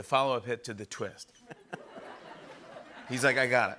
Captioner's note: laughter